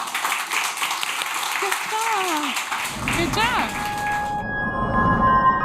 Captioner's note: applause